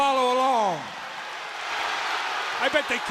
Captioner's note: crowd cheering